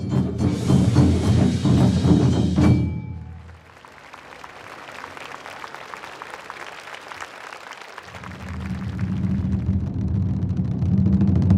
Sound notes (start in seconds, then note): 3.2 applause; 8.3 drums